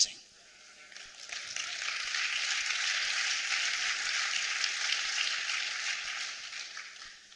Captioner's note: applause